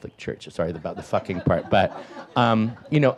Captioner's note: audience laughs